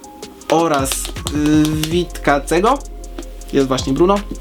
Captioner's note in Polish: nerwowe stukanie w okładkę